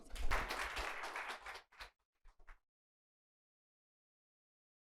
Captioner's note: audience applauding